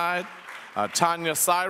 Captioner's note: audience applauds